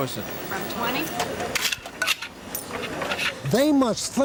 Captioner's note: change rattling